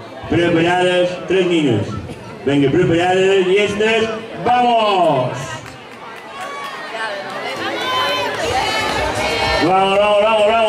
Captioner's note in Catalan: Alguna gent anima